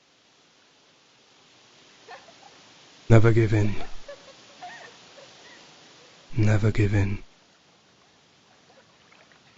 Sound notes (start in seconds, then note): 2.0 laughing; 3.2 voiceover